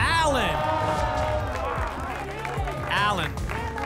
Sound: applause and cheering

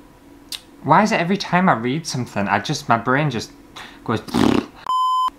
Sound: fart

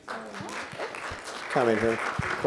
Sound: applause

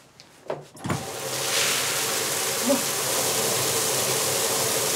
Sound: water running

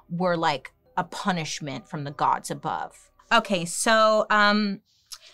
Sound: none

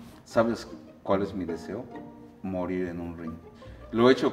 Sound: speaking foreign language

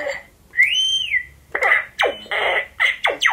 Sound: machine beeping; machine whistles; machine chirping

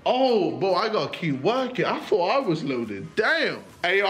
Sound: none

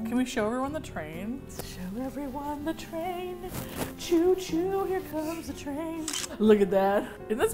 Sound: singsong; camera shutter

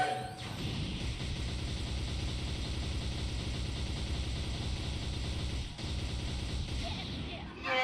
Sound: ak-47 sounds

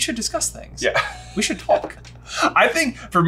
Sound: laughs

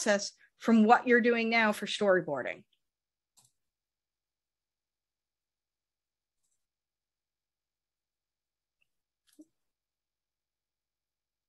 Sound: silence

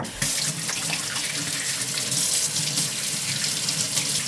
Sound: water running

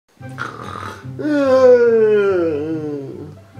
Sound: snoring

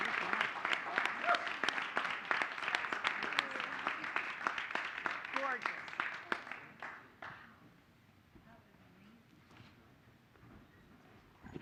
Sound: cheers/applause; applause

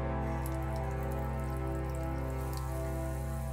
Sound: tap running

